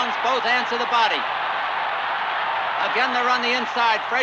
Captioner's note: crowd cheering continues